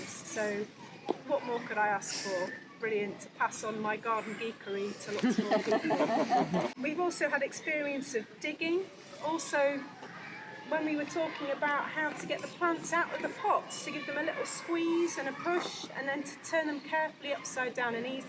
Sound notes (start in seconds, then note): 5.2 crowd laughing